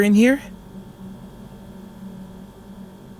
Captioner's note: florescent lights and crying fades